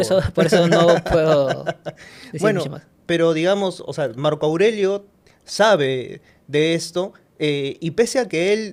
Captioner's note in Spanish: risas